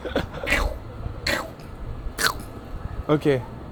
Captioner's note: eating noise 3x